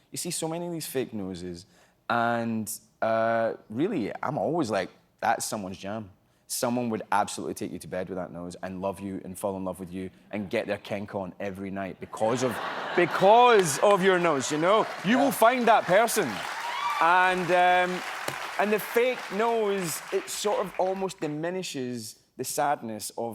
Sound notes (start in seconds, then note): 16.6 applause